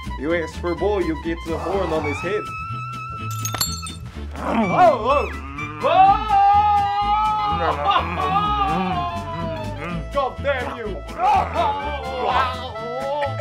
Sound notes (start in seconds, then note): 5.8 shouting